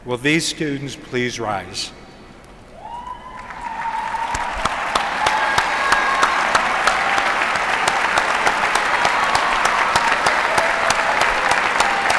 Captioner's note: applause